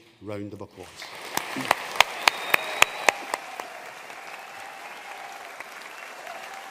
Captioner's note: audience cheering and applauding